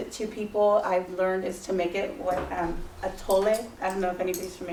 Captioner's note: non-english speech